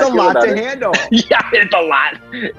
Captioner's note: laughs